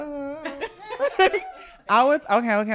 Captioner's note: laughing